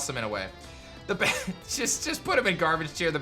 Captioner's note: chuckles